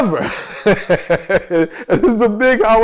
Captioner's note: laughs